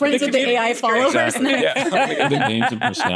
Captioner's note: laughter